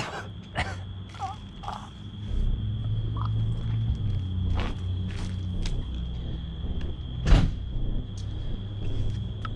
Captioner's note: coughing, groaning